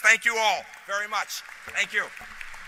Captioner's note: applause